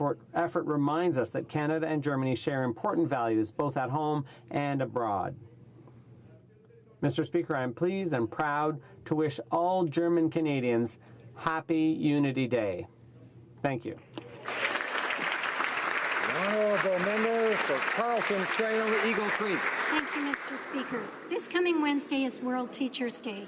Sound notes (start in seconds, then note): 19.0 applause